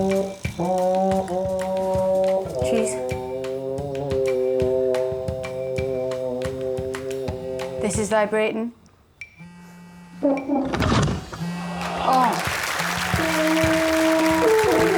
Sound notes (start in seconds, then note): 0.3 plays horn; 9.2 phone buzzing; 13.0 Rosie groans